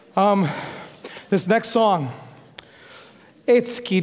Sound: foreign speaking

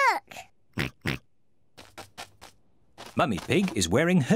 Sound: snorts

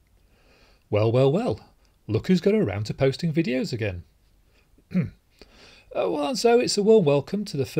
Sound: ahem

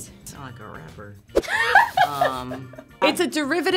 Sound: laughs

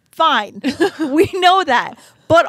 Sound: chuckles

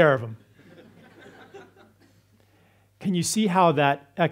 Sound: audience laughs

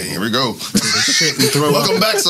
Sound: laughing

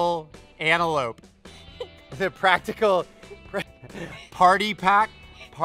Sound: laughs

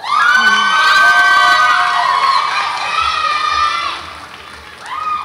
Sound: audience applauds and cheers

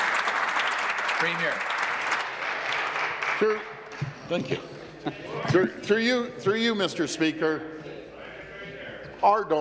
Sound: applause

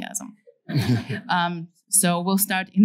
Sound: laughter

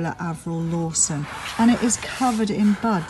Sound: pot dragging

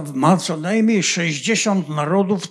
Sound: foreign language

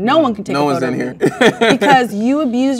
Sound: laughs

